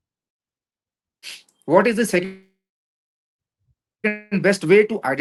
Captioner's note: nasal sound